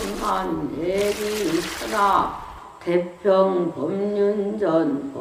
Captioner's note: water splashing; root tearing